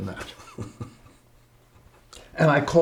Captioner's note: braga chuckles